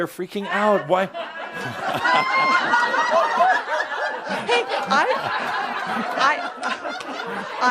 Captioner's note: lots of laughter